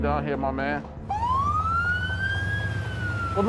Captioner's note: emergency siren